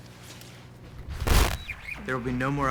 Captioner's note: static